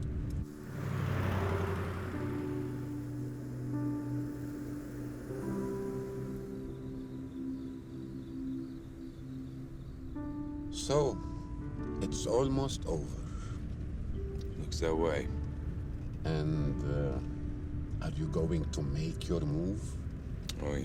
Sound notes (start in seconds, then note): 6.6 insects chirping